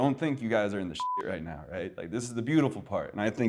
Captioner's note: beep